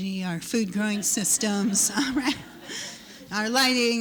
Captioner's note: laughter